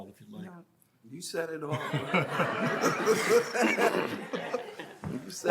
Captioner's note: audience laughing